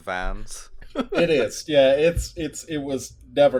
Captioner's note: laughter